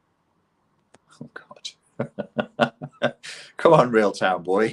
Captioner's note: chuckles